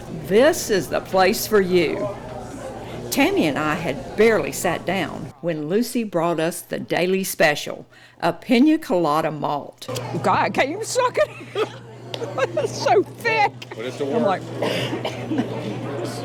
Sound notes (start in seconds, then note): 10.9 laughs